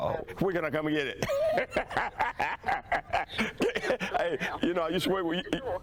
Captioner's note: laughs